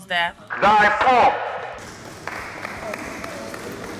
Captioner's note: applause